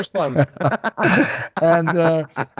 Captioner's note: both laughing